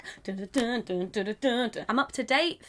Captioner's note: hums